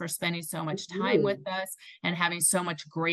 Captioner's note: faintly speaking